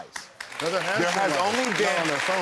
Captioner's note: audience applauds